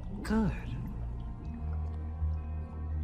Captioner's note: acid gurgling; suspenseful music